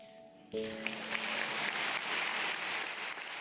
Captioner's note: applause